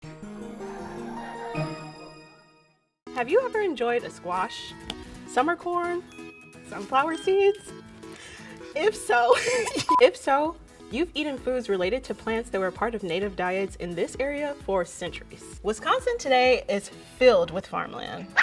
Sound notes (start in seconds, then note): 9.2 laughs